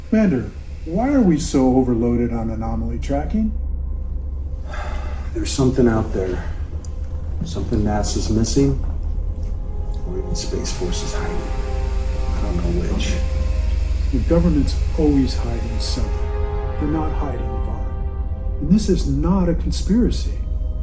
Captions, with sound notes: - Commander, why are we so overloaded on anomaly tracking? - (sighs) There's something out there, something NASA's missing or even Space Force is hiding. (suspenseful atmospheric music) I don't know which. - The government's always hiding something. They're not hiding the ark (eerie atmospheric music) and this is not a conspiracy.